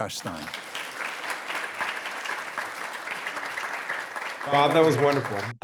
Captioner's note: audience applauding